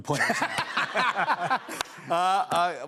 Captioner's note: laughter